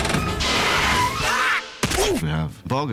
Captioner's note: grunting